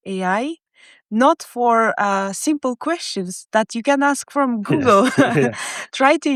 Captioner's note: chuckles